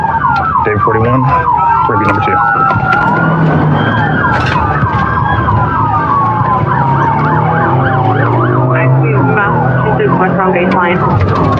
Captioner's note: radio ctter